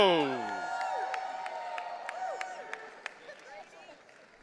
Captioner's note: audience cheering